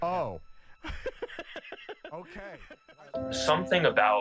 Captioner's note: laughs